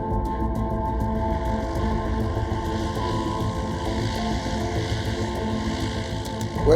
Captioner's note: planes diving